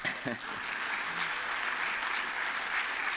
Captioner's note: applause